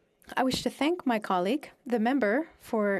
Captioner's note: speaking French